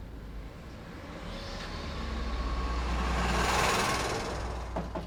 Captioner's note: engine rumbling; Ethan knocking